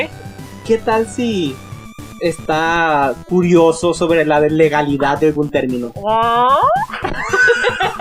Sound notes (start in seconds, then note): 5.7 curious squeal; 6.8 chuckles